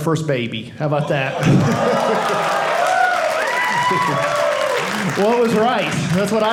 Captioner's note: audience cheering